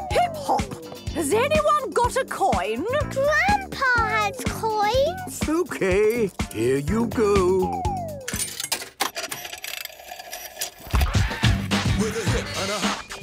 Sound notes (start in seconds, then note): 8.3 clicks, whirring; 11.0 hip hop music plays